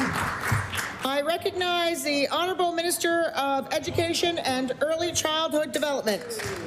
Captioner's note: applause